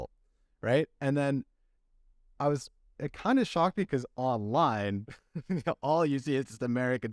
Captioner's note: laughter